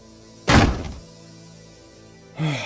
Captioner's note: slam